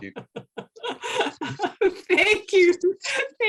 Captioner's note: laughing